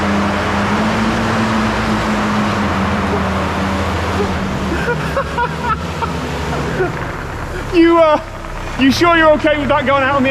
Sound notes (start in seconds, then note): 2.8 titters and cackles